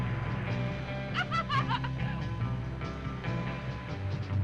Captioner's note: Bunny laughing